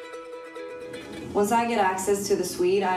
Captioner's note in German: englisch